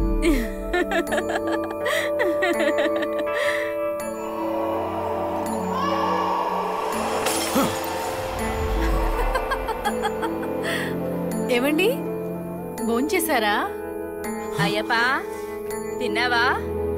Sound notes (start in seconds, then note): 0.7 laughs; 7.3 bottle smashed; 9.0 laughs